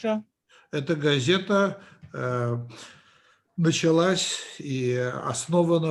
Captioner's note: translator speaking Russian language